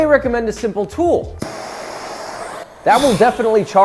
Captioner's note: blow torch hissing